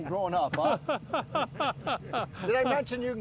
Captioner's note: man laughing